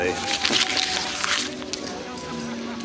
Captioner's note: paper rustles